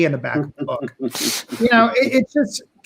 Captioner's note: chuckling